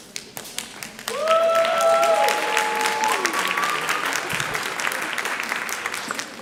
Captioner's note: audience cheering and applauding